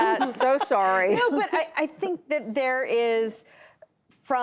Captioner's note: laughter